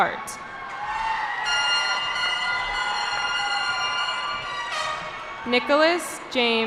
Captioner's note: cheering